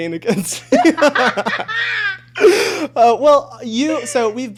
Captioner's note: both laughing